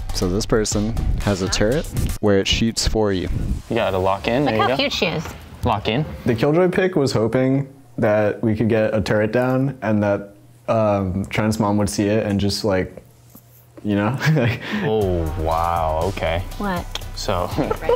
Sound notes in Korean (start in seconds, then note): 14.1 웃음